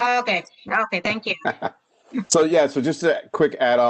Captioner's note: laughter